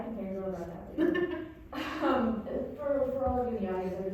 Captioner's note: laughing